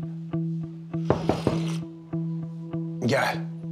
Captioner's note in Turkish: Kapı vuruluyor